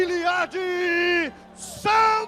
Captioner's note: announcer speaking Portuguese